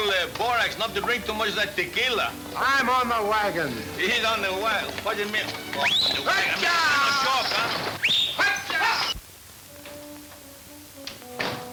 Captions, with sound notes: to much of that tequila. - I'm on the wagon. - He's on the wagon, what'd ya mean? (whistling) (yelling at horses) (pensive orchestra music)